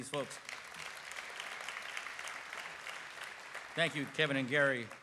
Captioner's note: applause